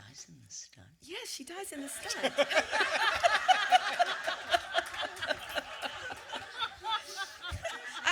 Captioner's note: audience laughter